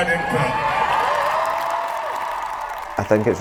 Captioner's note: applause